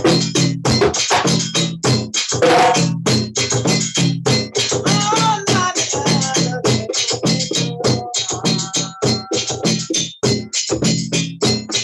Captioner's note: hits bell